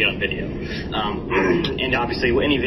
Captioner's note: sniffles; clears throat